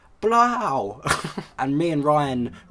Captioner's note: chuckles himself